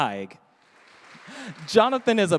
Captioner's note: audience applauding